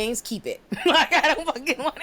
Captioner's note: laughing